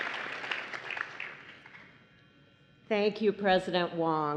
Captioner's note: applause